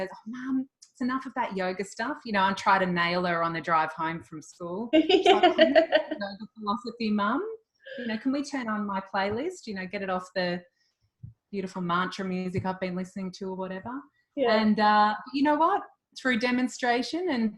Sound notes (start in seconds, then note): 5.0 laughs